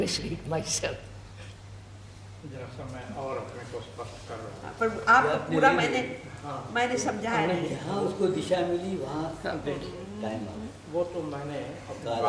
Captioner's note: Hindu conversation